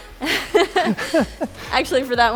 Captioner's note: laughing